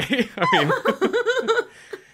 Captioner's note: laughs